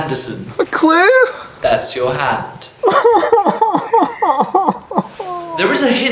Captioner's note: sobs